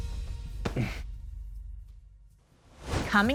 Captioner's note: chuckles